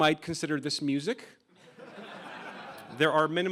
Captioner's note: laughing